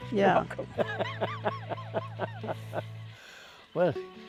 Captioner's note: laughter